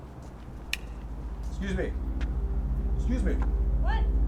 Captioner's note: knife clicks